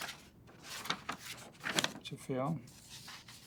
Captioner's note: paper rustles